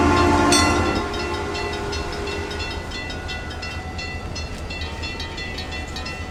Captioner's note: ringing stops